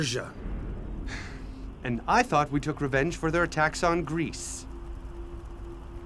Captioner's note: Philotas gasping